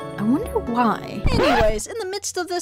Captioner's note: record Scratch